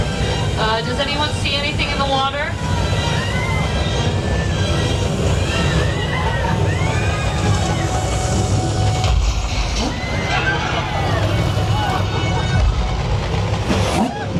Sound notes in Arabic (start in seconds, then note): 2.7 الموسيقى المشؤومة; 3.5 ناس يصرخون; 11.5 موسيقى مشؤومة